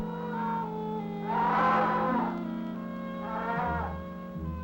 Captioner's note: birds crowing